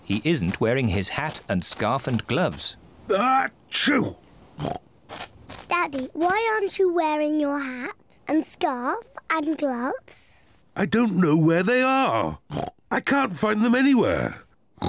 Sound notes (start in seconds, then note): 3.4 sneezes